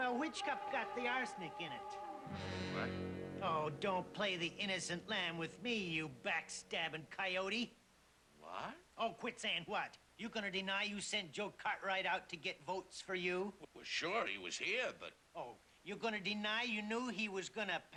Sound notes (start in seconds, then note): none